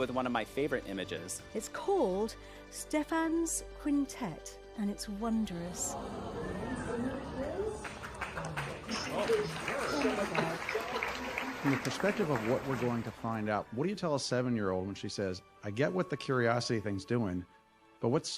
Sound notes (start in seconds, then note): 10.3 gasps; 11.3 applause